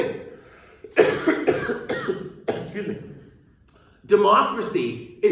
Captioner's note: coughs